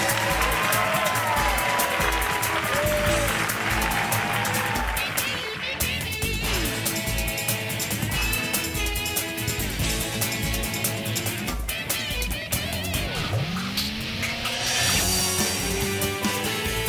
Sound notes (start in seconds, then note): 1.1 upbeat music; 3.2 audience cheering and clapping; 7.1 upbeat music